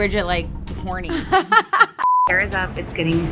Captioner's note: laughing